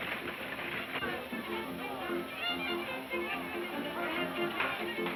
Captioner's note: people chattering